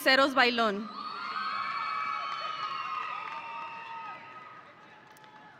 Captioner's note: audience applauding